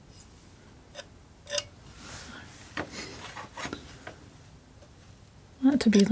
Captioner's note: tapping